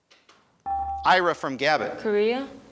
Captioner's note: buzzer chimes